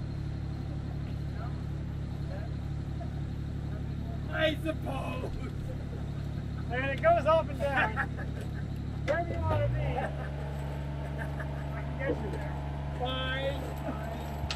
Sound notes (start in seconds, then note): 7.6 laughing